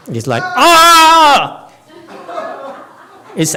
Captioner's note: audience laughs